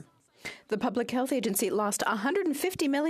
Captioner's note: speaking in French